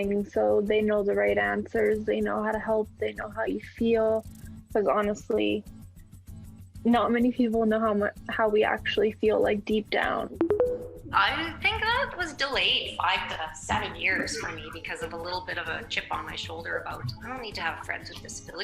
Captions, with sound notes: So they know the right answers, they know how to help, they know how you feel. Because honestly, not many people know how we actually feel like, deep down. [tones] I think I was delayed five to seven years for me because of a little bit of a chip on my shoulder about, I don't need to have friends with disabilities.